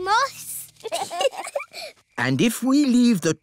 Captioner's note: both giggle